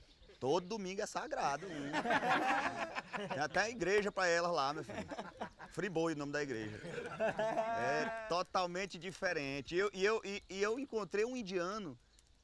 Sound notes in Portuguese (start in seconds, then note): 1.5 todos rindo; 6.7 continuam rindo